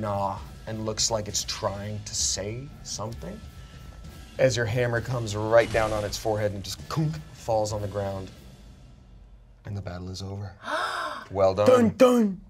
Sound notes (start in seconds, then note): 10.6 gasps